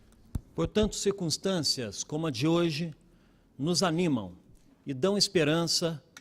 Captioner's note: speaking Portugese